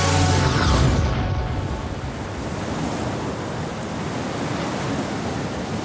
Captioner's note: rushing wind